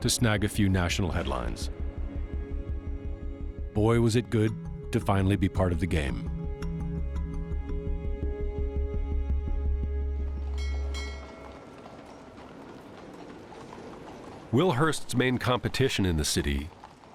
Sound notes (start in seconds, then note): 10.4 bell rings, horses trotting